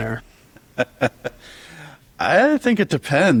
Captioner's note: laughs